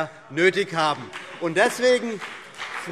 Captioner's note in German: Beifall BÜNDNIS 90/DIE GRÜNEN